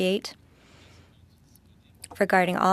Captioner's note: speaking French